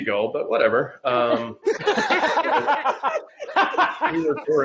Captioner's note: laughing